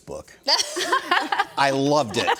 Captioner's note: all laughs